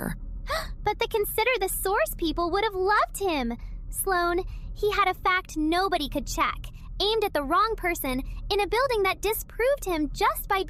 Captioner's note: gasp